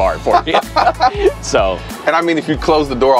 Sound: laughs

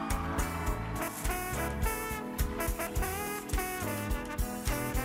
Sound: cheering

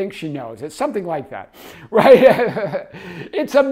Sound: chuckles

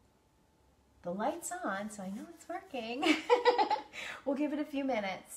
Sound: laughs

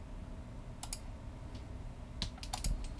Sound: click

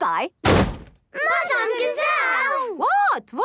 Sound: bangs

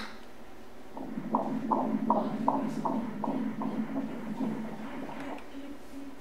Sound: heartbeat

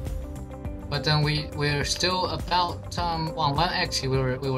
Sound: on the radio

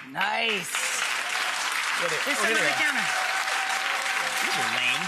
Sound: audience cheering

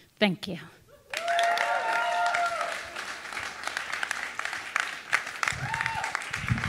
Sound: audience cheering and applauding

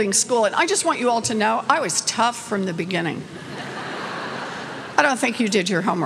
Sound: laughter

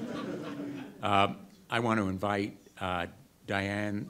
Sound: audience laughter

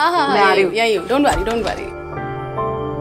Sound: door opens

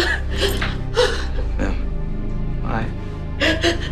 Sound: sobbing

